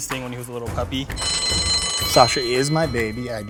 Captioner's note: bell rings